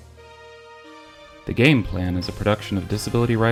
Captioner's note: voiceover